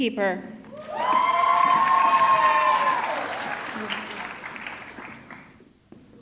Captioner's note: audience cheering; audience clapping